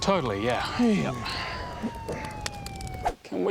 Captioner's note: police sirens